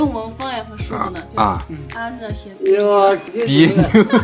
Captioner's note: dialect